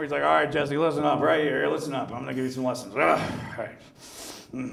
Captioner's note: grunts